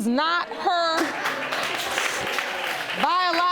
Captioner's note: audience applauding